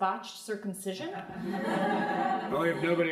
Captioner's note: crowd laughing